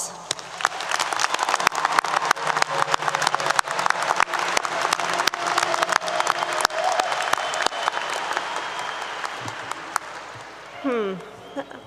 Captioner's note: applause 👏 👏